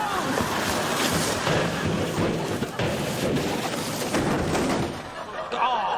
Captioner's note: canoe clatters downhill off screen